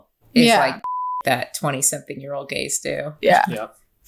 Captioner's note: beep